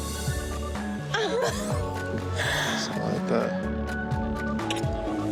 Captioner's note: laughs